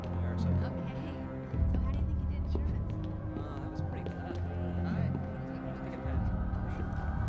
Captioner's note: hallway student conversation